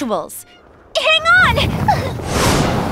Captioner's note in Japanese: 風の音